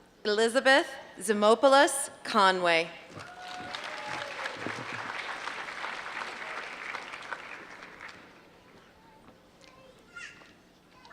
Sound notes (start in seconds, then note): 3.1 applause